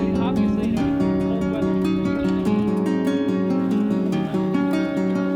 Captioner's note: people chatter indistinctly